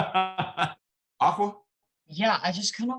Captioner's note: laughs